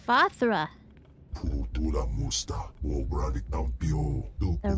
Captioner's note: speaking foreign language